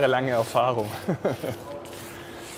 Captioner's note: he laughs